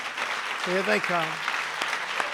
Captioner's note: applause